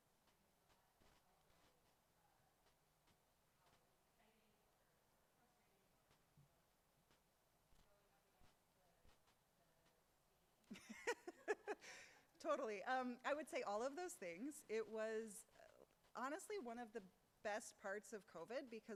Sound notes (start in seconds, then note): 10.7 laughs